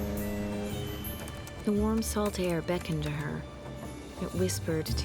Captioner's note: boat horn; typing